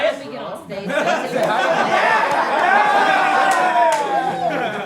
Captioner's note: group cheering